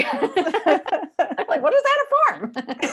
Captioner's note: both laughing